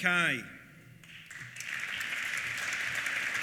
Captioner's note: applause